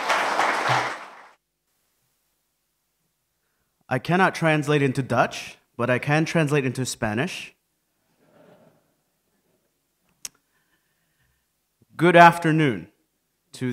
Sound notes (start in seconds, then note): 8.2 laughter